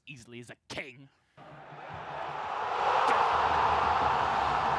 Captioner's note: applause